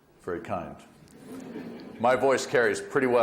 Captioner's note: audience laughs